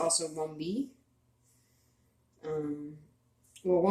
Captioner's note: speaking Abenaki